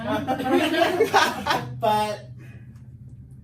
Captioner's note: everyone laughs